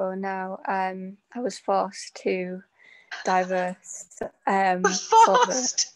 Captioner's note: laughs